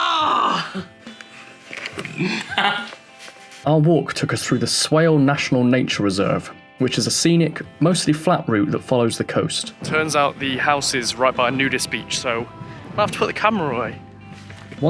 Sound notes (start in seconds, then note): 2.2 laughs, smugly